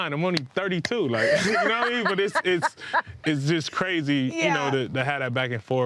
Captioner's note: laughing